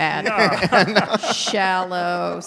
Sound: panel laughing

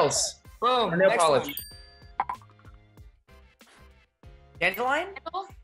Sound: bell dings

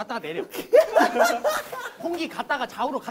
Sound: kuhahaha

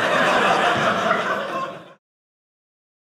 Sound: audience laughing

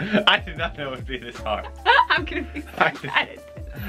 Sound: laughs

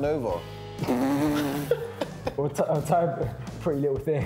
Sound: group laughs

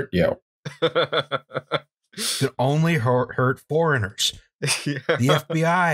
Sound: laughter

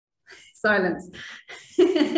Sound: laughs

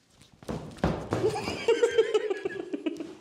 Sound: really Spooky Stomping

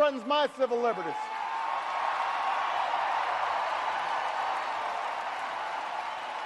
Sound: audience cheers and applauds

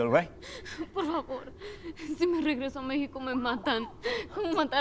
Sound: Spanish

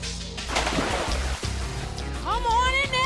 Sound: water splashes

